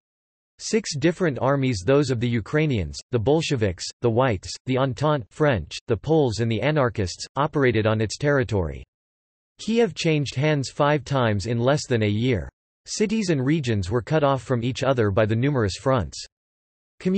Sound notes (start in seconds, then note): 5.3 French